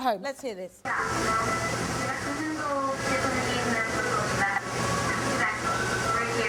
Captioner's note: static with some dialogue and music in background